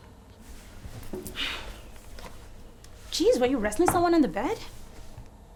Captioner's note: Abby sighing